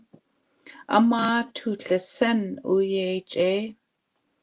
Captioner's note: speaking Indigenous language